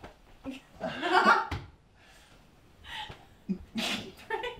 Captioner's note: laughs